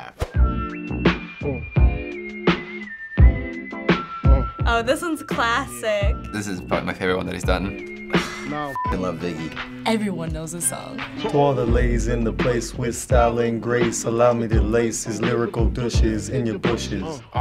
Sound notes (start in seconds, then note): 1.2 mellow hip hop; 8.1 sighs; 11.3 singing along